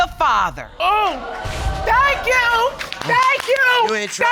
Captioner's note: audience exclaims